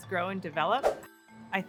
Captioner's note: whoosh